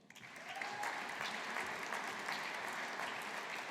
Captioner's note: audience applauding